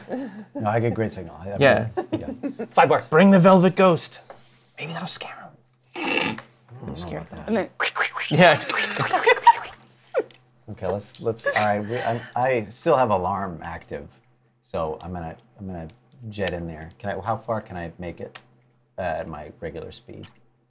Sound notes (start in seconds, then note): 2.1 laughs; 7.7 squelching sounds; 7.8 chittering sounds